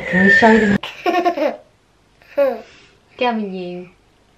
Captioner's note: laughs